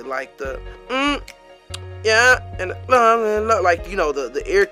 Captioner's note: hums melodically